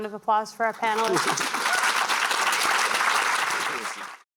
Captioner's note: applause